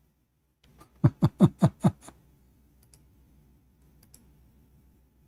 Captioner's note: Ketawa